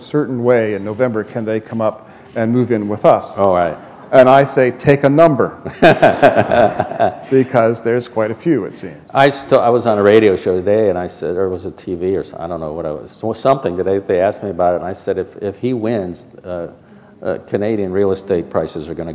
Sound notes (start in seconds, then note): 5.6 laughter